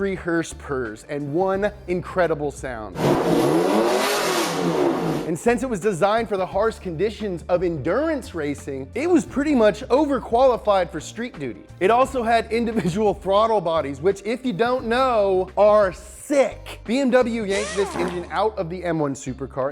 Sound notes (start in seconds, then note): 3.0 car engine revs